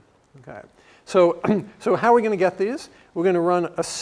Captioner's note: cough